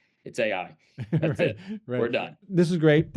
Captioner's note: laughs